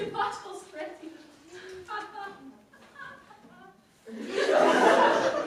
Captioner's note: Gretel laughs for no discernible reason